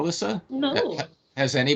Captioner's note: chuckling